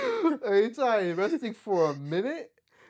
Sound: laughing

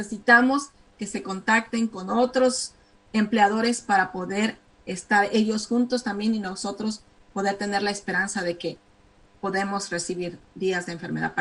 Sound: speaking spanish

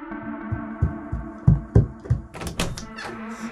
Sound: desperate footsteps coming from the hall of the police station; door opening

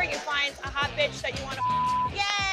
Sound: beep

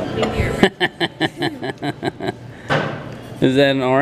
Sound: laughing

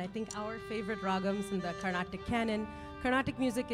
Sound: speaking in language other than English

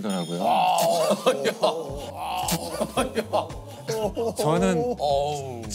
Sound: chuckling

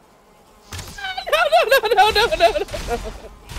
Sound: screaming

